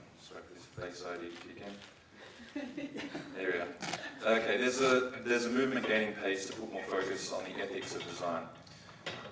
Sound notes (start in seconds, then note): 2.3 laughing